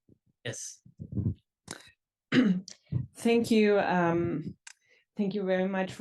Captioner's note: cough